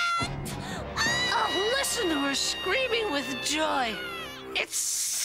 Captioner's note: shrieking